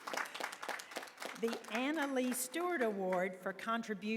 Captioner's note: applause